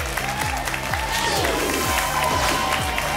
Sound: whoosh; applause and cheering cont

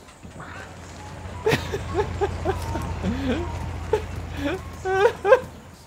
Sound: laughs

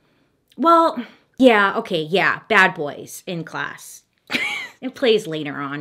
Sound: chuckles

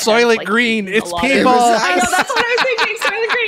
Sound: laughter

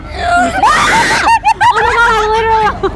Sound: screaming; cackling

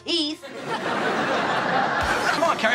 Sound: laughing

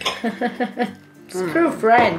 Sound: laughs

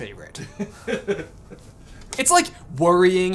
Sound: laughs

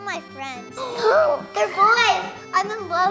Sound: gasps

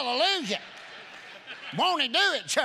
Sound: congregation laughing

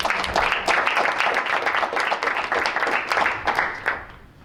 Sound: applause

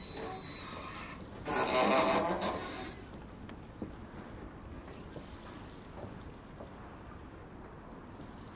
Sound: squeaking sea vessel

